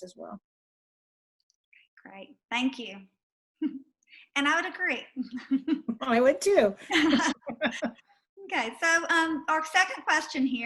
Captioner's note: laughter